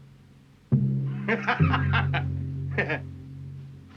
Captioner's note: laughs